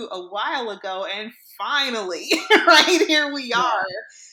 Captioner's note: laughs